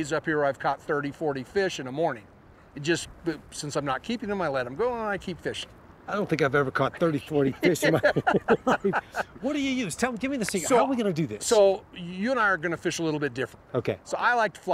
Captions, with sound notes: I've had days up here where I've caught 30, 40 fish in a morning, and since I'm not keeping them, I let them go and I keep fishing. -I don't think I've ever caught 30, 40 fish in my life! (laughter) What do you use? Give me the secret. How are we going to do this? -So you and I are going to fish a little bit different.